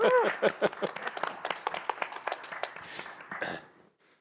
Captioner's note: applause